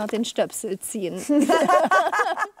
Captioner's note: everyone laughs